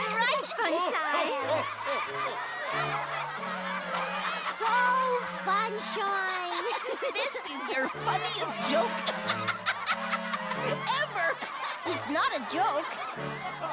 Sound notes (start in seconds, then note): 9.9 giggles